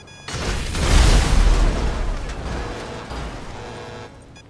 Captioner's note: structure explodes